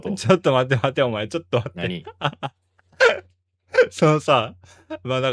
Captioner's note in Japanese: 笑い